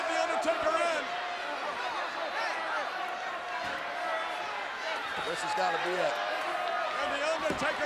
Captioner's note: applause